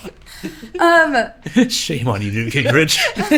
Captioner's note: both Laughing